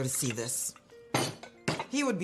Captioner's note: pot clatters